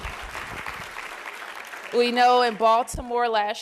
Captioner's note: applause